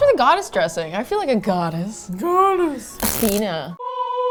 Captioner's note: high pitch